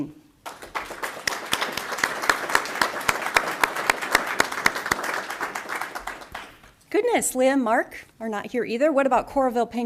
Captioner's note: applause